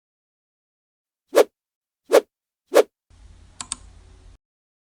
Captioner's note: graphics whooshing; mouse clicks